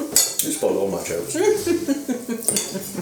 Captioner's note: laughs